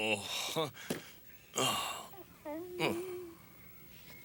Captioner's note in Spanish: Cachorro choramingando